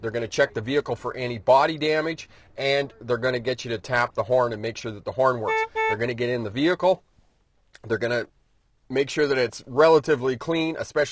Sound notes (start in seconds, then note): 5.4 horn honking